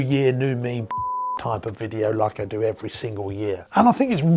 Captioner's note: beeps